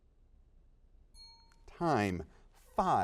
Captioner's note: dings